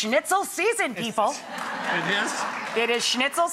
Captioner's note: audience laughs